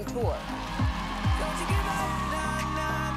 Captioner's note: crowd cheering